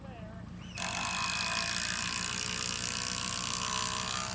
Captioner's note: drill buzzing